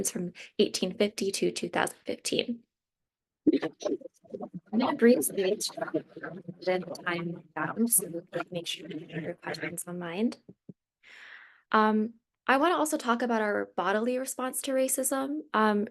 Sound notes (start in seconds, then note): 6.4 speaking faintly